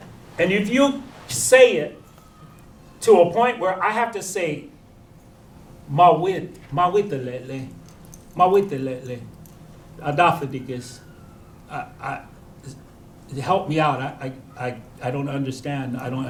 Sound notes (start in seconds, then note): 6.1 non-english